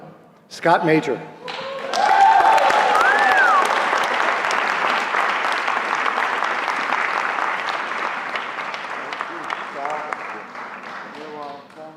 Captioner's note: applause